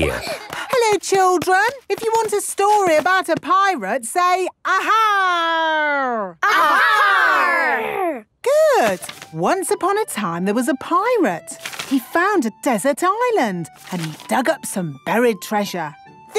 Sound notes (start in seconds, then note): 0.0 excited babbling; 6.5 all shouting